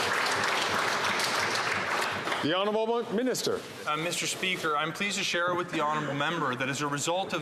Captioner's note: some Applause